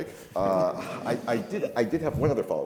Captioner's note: all laugh